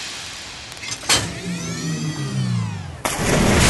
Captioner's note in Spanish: sonido de maquinaria